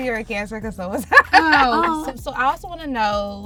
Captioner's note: laughs